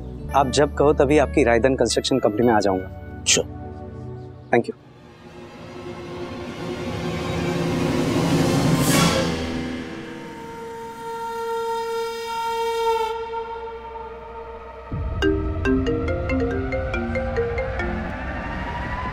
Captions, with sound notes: I'll visit the Raidhan Construction Company whenever you want. - Sure. - Thank you! [suspenseful music] [mobile phone ringing]